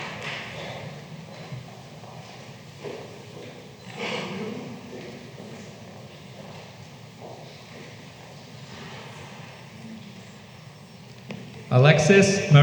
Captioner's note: applause